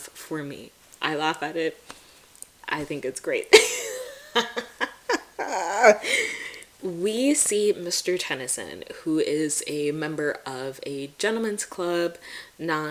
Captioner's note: cackles